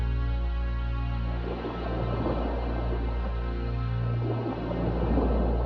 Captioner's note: water sploshes